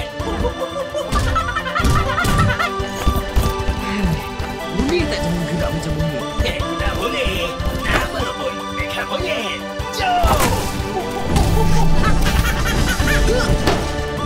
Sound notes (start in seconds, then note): 0.3 hooting; 10.9 hooting